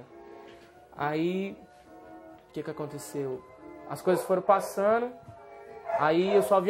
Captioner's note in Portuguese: Cão latindo